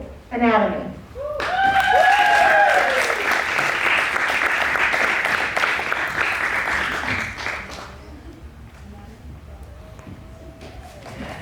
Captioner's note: cheers and applause